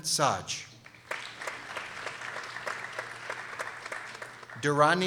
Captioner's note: people applauding